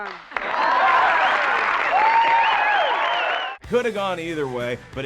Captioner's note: crowd cheering